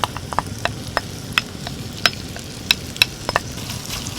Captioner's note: tap tap tap…